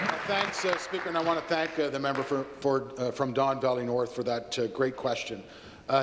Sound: applause

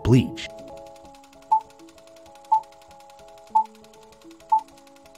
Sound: movie reels spinning and beeps

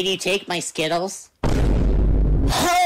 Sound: boom sfx

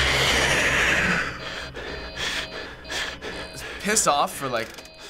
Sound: in game: growl; in game: frantic panting, alarms buzzing

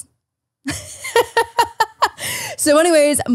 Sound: laughs

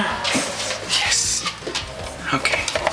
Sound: gasps

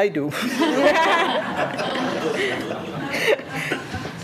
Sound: laughing

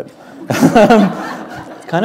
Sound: laughter

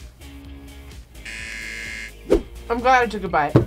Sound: buzzer rings

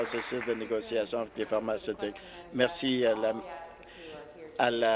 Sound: applause

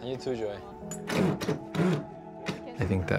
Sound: drill whirring

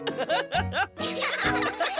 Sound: giggle

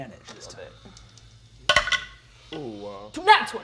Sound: dice rolling

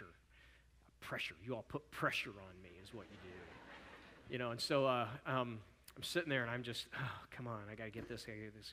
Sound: audience chuckles

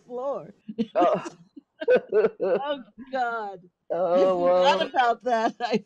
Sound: all laughing

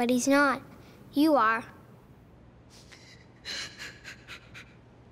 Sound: crying

